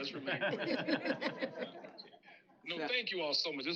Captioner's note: laughter